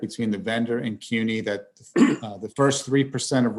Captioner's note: clears throat